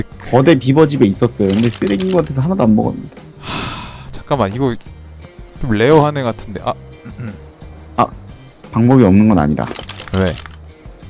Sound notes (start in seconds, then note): 7.0 cough Cough